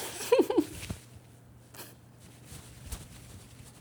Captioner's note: giggling